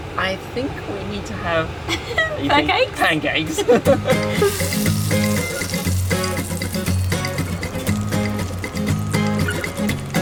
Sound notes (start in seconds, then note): 3.6 laughing; 4.1 upbeat music; 4.3 butter sizzling